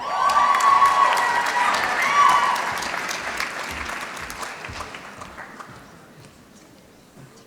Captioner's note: applause